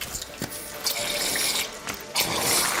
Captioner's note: squirting